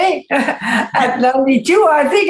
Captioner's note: laughs